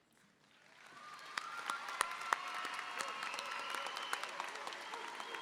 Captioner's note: applause and cheering